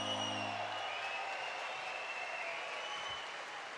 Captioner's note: applause